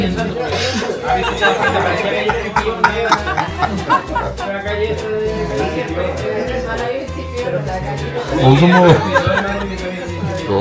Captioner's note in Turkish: Gülüşmeler